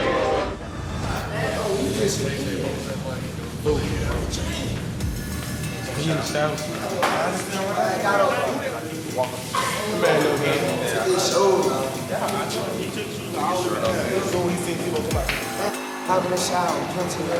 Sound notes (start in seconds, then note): 13.0 indistinct chatter